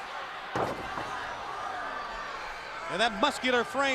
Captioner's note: crowd cheering